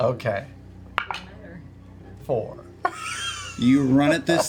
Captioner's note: laughs